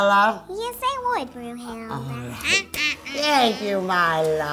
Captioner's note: laughing